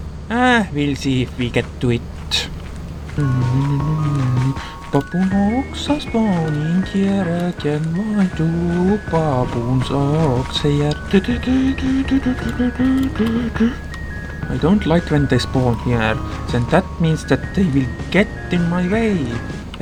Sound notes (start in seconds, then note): 3.2 humming along dropship music; 11.0 humming along dropship music